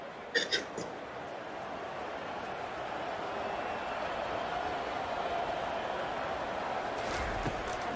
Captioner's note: crowd cheering